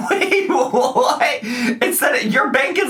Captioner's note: laughing